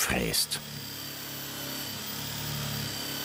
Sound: machine whirring

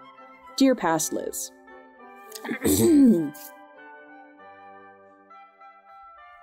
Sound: awkward cough

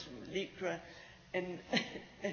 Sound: laughs

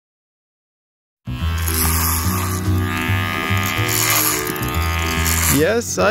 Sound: hair clippers buzzing

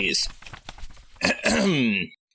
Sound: clears throat

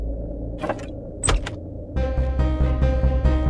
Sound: door opens

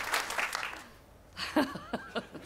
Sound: laughs

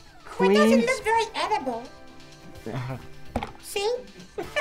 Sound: laughs

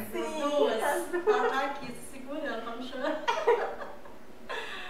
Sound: laughs

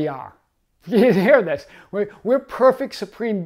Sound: chuckling

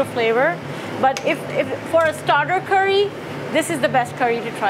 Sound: fire sizzling

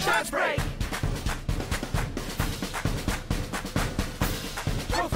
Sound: clapping in time with music

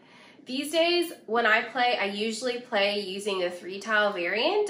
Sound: none

